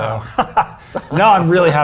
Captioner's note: Rich laughs